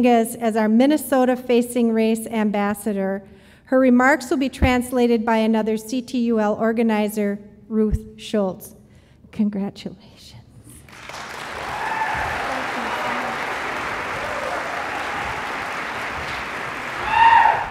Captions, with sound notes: as our Minnesota Facing Race Ambassador, her remarks will be translated by another CTUL organizer, Ruth Schultz. Congratulations. (audience applause)